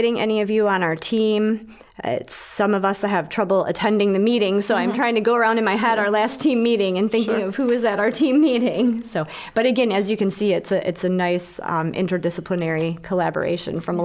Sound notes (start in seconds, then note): 6.9 chuckling